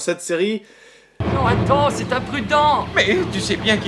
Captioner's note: girly voice